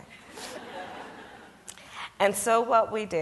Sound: audience laughs

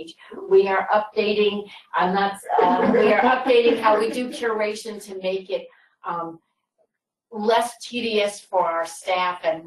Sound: laughter

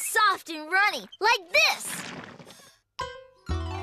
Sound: splat!

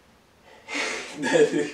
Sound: exhale laughs

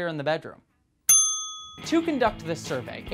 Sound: ding

